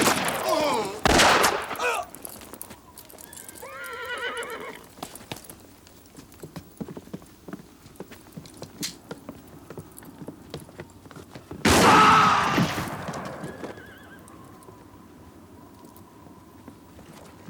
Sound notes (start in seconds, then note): 0.0 guns fire; 0.1 town members groan; 3.4 horse neighs; 11.6 town member screams; 11.6 gun fires; 13.3 horse neighs; 14.8 wind whistles